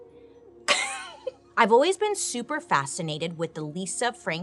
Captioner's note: laughs